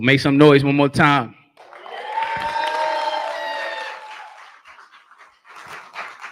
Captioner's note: cheering